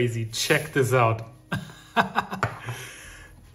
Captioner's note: laughs